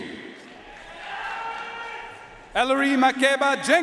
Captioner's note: audience cheering and applauding